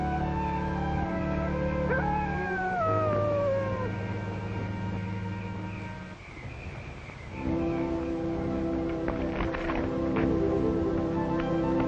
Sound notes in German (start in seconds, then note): 1.5 Wolf heult; 7.3 leichte Orchestermusik